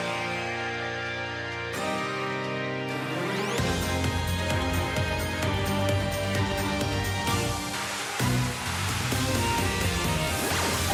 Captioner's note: applause